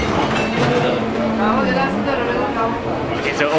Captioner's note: speaking in foreign language